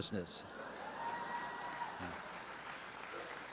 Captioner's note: applause